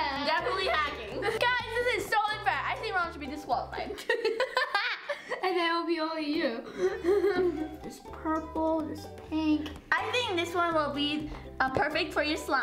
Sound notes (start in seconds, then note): 4.0 laughing